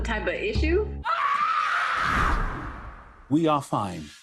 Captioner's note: woman screaming